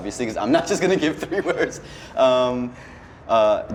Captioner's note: laughs